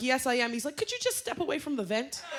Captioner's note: laughter